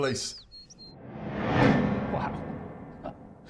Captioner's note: memory image whooshes